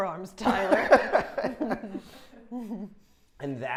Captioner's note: laughing quickly